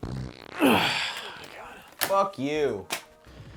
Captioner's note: farting